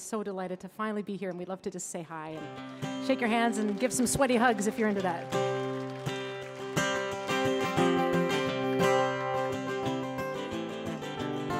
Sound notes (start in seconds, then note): 5.6 audience clapping